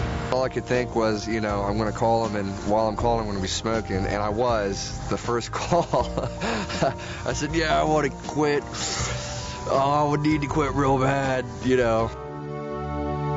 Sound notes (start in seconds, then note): 5.6 laughs; 8.7 inhaling sound